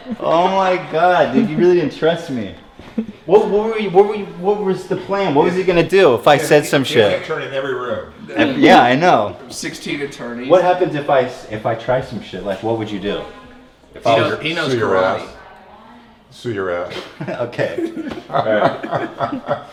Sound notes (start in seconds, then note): 18.0 laughs